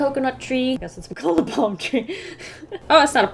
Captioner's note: laughs